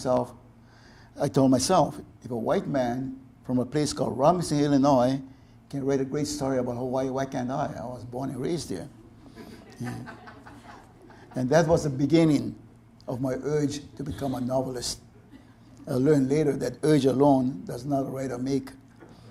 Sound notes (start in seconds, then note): 9.3 audience laughter